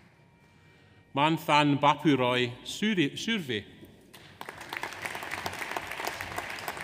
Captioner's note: audience applauds